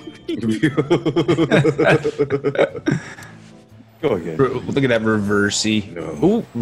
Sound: laugh

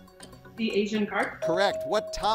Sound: bell dinging

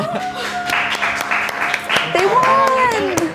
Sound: claps

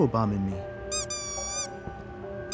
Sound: clown squeaks

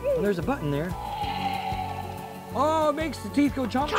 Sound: dinosaur roars

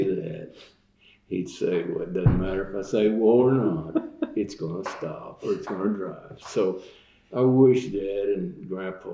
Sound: laughter

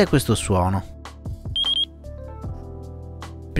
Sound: beep

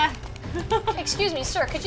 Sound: laughter

